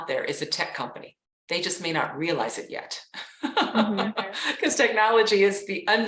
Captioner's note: laughs